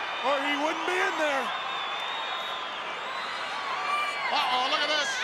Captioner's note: crowd cheering